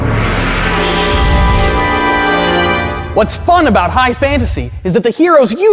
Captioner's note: gong sounds